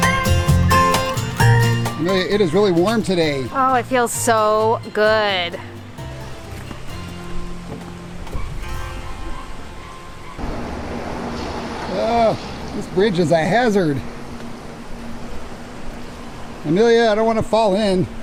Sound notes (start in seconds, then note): 6.7 mellow music; 8.1 wood clunking